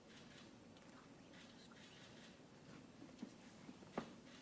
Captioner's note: cameras clicking